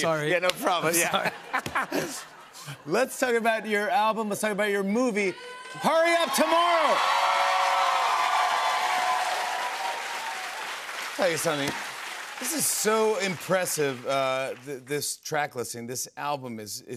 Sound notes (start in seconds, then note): 1.0 laughter; 8.1 cheers and applause